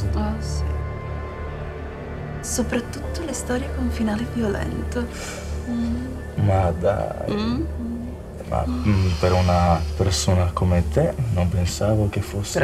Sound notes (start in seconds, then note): none